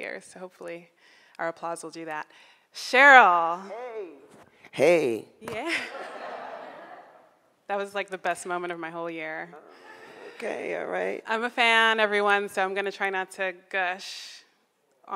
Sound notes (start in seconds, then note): 5.7 crowd laughing